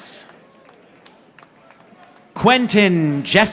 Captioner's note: audience applauding